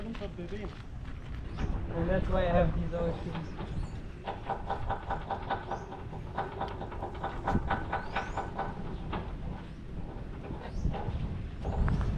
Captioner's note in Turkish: Çekiç sesi